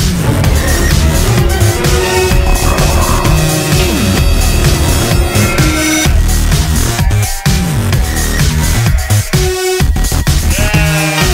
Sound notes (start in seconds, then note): 0.2 creepy music; 2.0 monster noises; 5.2 sheep noises